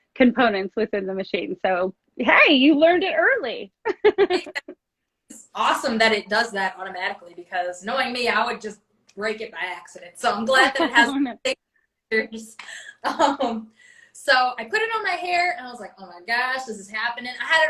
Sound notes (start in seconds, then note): 3.8 laughs